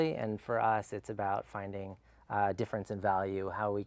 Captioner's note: none